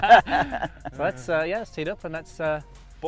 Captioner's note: laughing